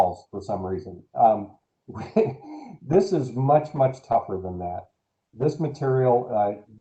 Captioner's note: laughter